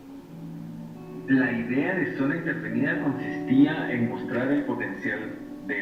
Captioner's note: speaking in foreign language